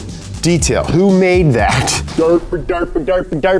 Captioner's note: laughs